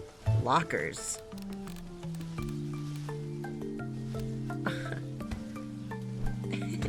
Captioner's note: giggles